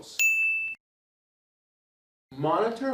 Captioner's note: bell rings